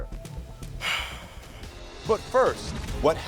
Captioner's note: sighing